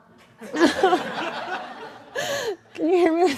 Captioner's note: laughing